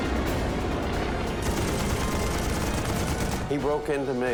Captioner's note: gunfire